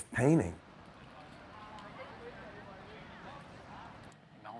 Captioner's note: people talking in background